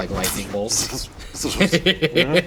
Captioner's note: mimicking lightning; laughing